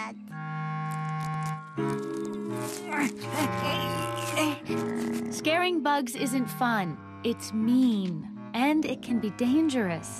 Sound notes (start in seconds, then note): 2.8 grunts with effort